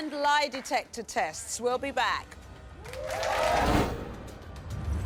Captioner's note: applause